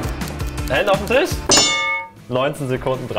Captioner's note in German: Signalglocke